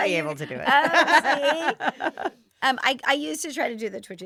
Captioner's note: all laughing